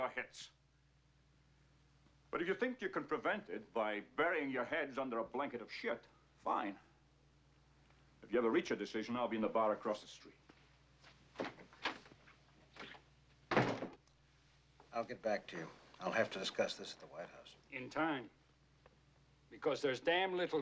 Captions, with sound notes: BY BURYING YOUR HEADS UNDER A BLANKET OF SHIT, FINE. IF YOU EVER REACH A DECISION, I'LL BE IN THE BAR ACROSS THE STREET. [ Door Closes ] I'LL GET BACK TO YOU. I'LL HAVE TO DISCUSS THIS AT THE WHITE HOUSE. IN TIME. BECAUSE THERE'S DAMN LITTLE TIME.